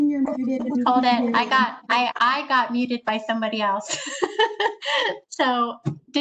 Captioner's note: laughs